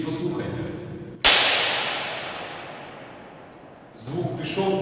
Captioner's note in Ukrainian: Чутно довге відлуння; Хлясь